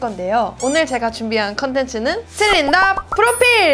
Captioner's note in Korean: 두근두근